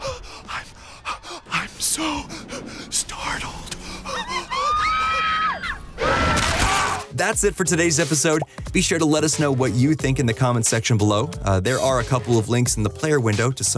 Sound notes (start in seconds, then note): 4.1 screams; 5.7 roar